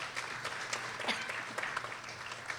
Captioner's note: people applauding; coughing; people applauding